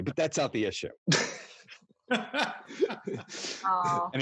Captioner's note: laughing